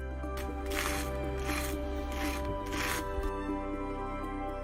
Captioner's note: knife scraping; thoughtful music